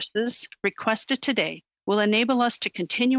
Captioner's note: speaking French